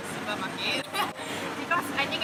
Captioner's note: awkward laugh